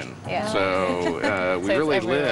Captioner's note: laughs